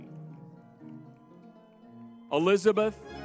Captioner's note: lively music; crowd cheering